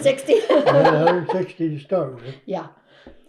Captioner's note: laughs